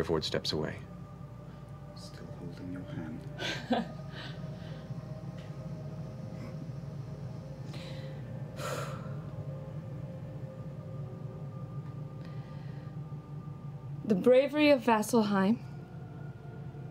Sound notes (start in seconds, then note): 3.3 chuckles, sighs